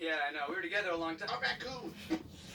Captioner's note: autotuned voice